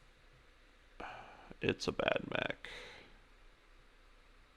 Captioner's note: sighs